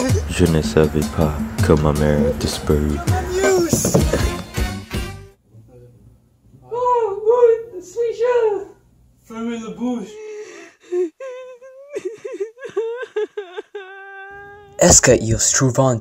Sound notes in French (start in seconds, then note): 10.0 muffled crying